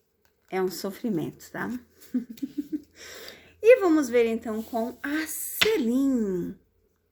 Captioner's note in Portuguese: risadas